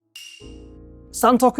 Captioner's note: bell rings